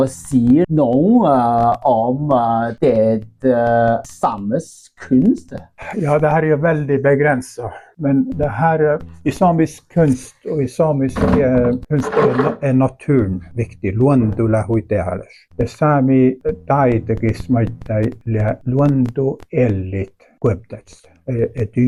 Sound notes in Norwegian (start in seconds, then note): 15.0 svarer på nordsamisk